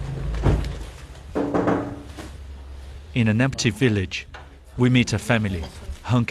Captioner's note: door closing